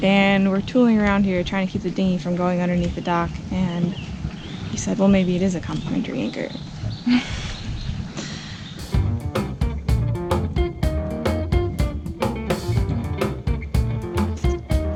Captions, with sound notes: And we're tooling around here trying to keep the dinghy from going underneath the dock. And he said, well, maybe it is a complimentary anchor. (laughs) (gentle music)